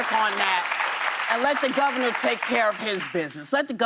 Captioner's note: applause